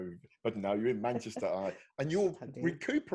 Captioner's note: chuckling